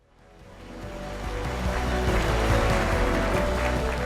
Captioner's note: applause